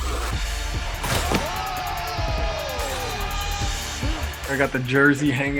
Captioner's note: rap music; judges cheering